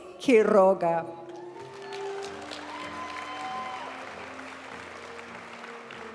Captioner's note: audience cheering and applauding; graduation music